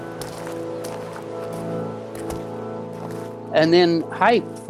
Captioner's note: footsteps falling